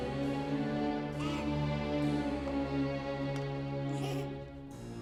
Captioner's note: child giggling; soft dramatic music